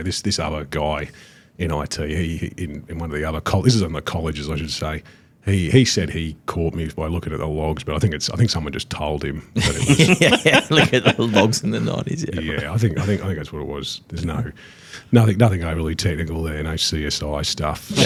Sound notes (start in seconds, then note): 9.6 all laugh